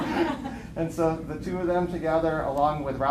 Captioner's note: laughter